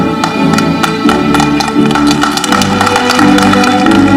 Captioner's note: audience clapping